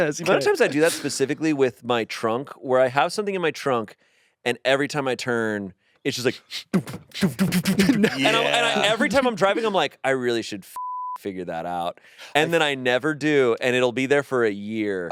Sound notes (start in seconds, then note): 0.2 laughing; 6.7 grunting